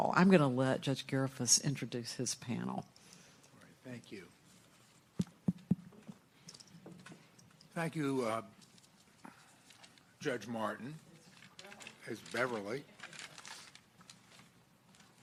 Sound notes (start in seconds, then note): 5.1 tapping microphone